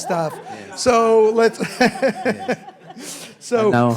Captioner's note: laughing